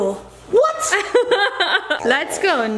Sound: laughs

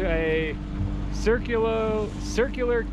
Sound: boat enigne running

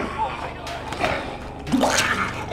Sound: projectile vomit; gagging

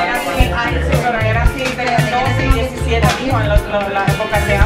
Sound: random chatter

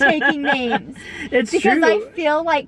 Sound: laughing

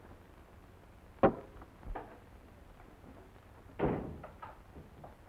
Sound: knife thuds

